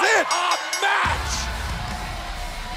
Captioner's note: bell ringing